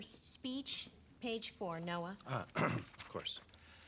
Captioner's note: clears throat